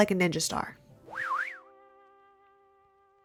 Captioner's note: woosh